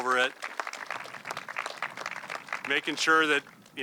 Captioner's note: audience clapping